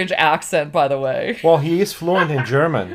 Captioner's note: laughs